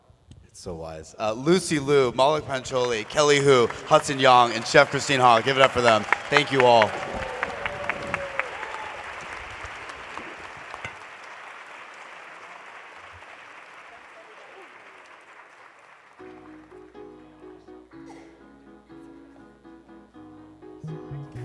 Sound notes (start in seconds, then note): 8.6 applause